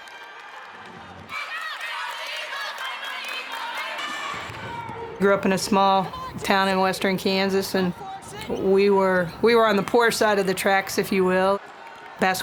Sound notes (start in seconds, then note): 1.3 chanting